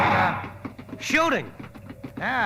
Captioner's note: gunshots